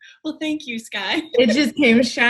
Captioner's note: laughs